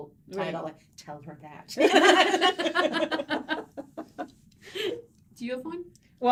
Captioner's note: hearty laughing